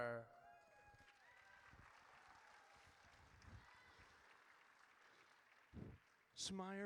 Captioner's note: audience cheers